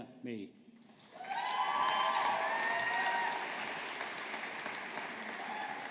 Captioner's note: audience applauding